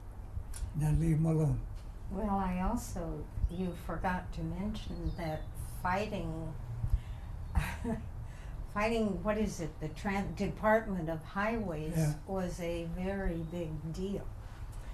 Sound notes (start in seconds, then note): 7.6 laughs